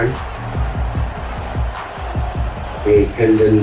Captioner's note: crowd Noises